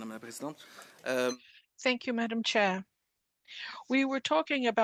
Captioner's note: speaking French